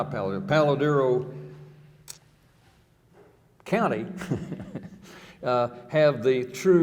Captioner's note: chuckling